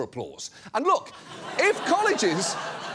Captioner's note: studio audience laughs